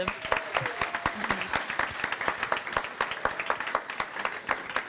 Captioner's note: applause